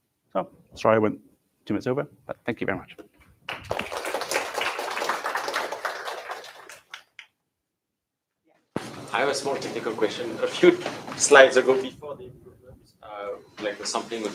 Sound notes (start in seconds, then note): 3.4 applause